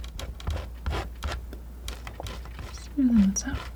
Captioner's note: tapping